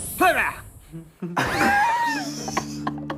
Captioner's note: laughing